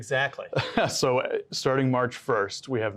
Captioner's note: both chuckle